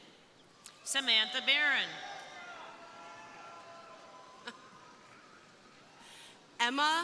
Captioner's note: crowd cheering